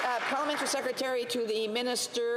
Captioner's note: some Applause